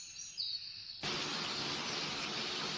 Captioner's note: birds chirping; raining